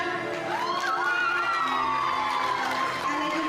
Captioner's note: everyone cheering